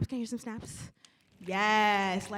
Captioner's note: fingers snapping